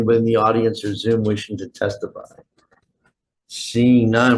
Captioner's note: none